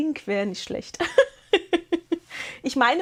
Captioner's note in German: gelächter